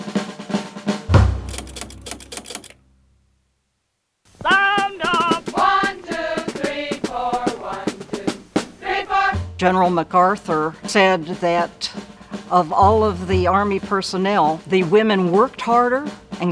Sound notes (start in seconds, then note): 1.4 typewriter clatters